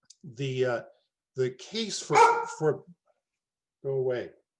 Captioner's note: dogs barks